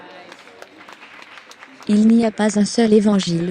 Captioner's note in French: L'audience applaudit